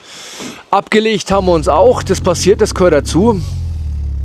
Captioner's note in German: schnauben